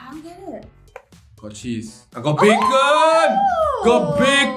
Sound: squeals

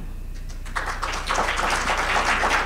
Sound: applause

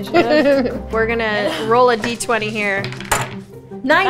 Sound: laughs

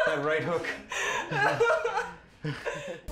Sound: laughing

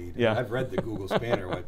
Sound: laughs

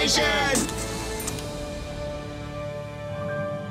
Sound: camera shutter clicking

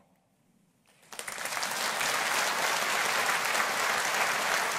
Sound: audience applauding

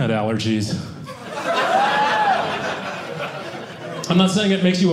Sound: audience laughing

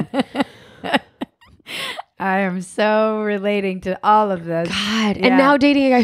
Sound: laughing

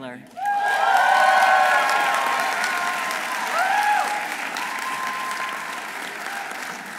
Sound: audience applauding; audience cheering

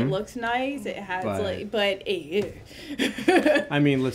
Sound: laughing

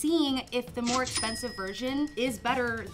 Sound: till rings

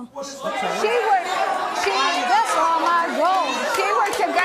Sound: audience shouting

